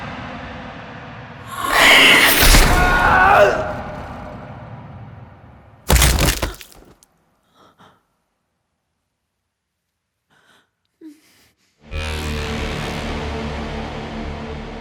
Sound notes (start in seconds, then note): 1.4 Kenny screams; 1.5 hissing; 5.8 bones cracking; 11.8 dramatic music